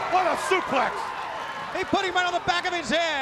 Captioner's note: crowd cheering